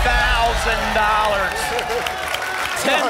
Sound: applause and cheering

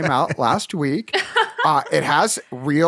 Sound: laughter

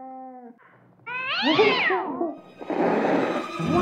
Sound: cat snarling; dramatic music

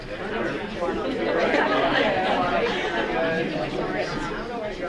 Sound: audience murmuring

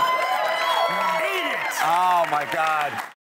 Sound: cheering

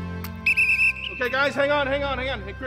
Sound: whistle shrills

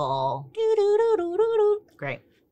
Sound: imitates mysterious music

